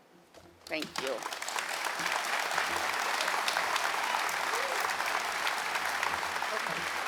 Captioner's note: audience clapping